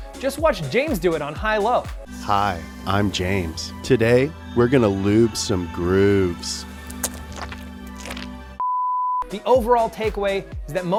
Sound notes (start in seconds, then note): 6.8 squirting gel; 8.6 beep